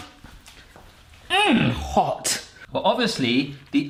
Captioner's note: grunts